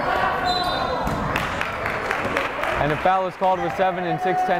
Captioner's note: whistle blowing